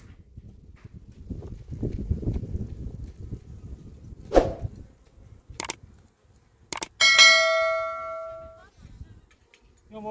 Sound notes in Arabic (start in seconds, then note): 7.0 جرس